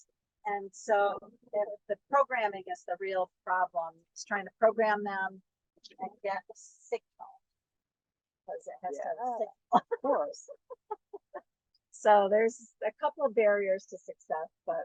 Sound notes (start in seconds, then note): 9.6 laughter